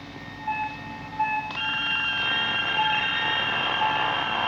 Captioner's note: monitor apitando